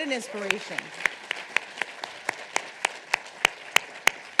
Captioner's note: audience applauding